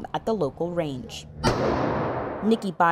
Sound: gun firing

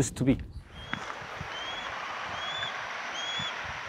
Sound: bird chirps

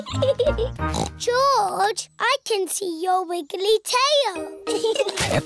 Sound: giggles; snorts

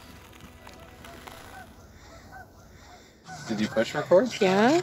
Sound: geese honking

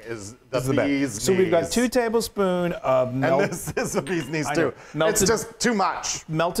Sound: laugh

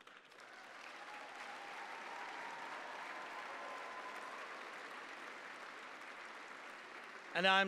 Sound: applause

